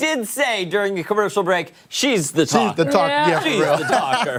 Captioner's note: laughter